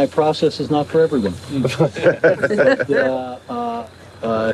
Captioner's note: laughter